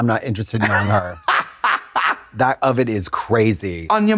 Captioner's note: Trixie guffaws